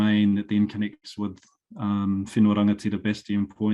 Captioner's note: speaking foreign language